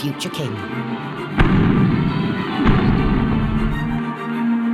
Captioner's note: cannons firing